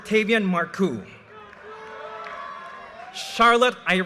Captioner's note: audience cheers and applause